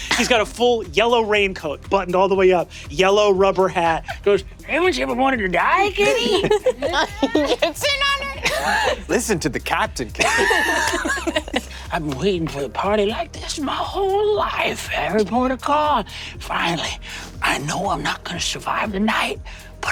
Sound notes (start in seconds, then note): 10.0 cast laughing